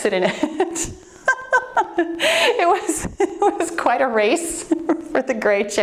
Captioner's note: laughs